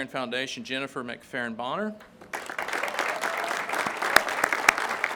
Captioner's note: crowd claps